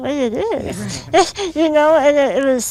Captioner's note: laughs